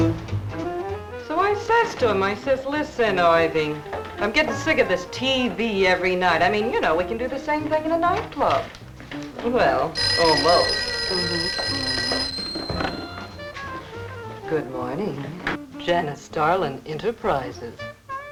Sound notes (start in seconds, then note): 9.7 phone ringing